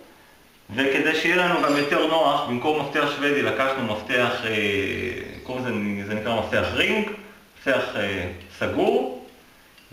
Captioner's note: ring